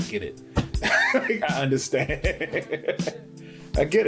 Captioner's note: laughing